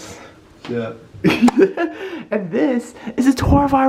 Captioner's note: lols